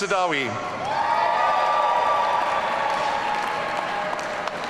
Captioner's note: audience cheering